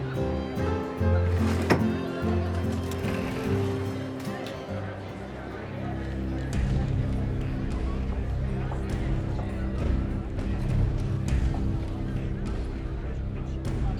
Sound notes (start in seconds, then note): 1.2 sliding; 3.3 door creaks open